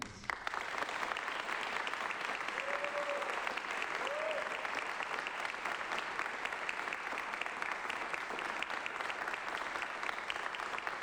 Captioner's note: applause